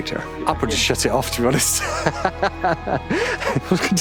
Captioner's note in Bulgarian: смее се